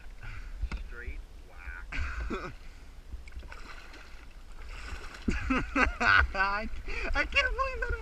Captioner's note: laughing madly